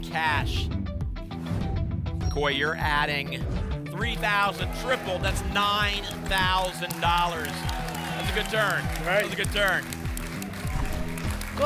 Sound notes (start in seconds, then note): 0.3 whoosh; 6.8 applause and cheering